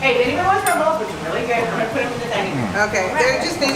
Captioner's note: chatter